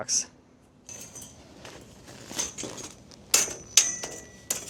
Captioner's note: metal rattles